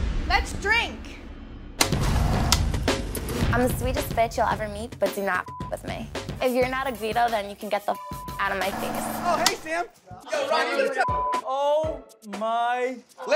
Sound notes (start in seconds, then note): 5.4 beep; 7.9 beep; 11.0 beep